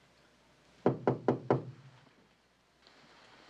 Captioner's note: knocking on door